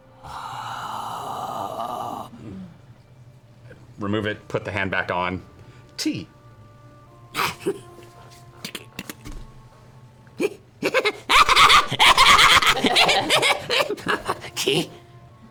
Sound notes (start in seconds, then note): 8.6 chuckle, click; 10.8 excited laughter